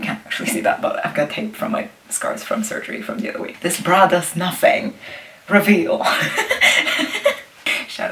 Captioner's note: laughs